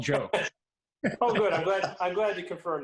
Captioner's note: laughs